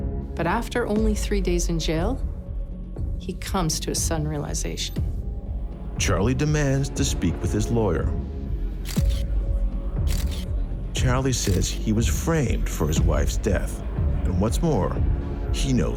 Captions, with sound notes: Charlie says he was framed for his wife's death, and what's more, he knows who did it. (people chatting) (dramatic music)